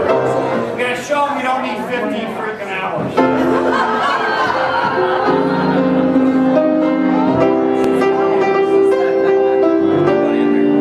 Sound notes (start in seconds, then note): 3.2 crowd laughing